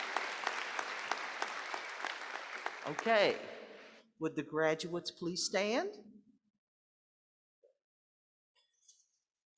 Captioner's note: applause